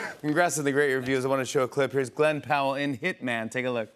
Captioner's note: none